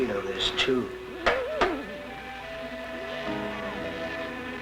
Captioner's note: tapping; loud buzzing nearby